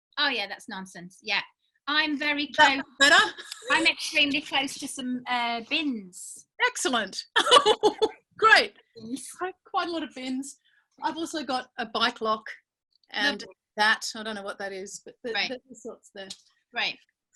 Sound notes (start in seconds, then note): 7.4 laughing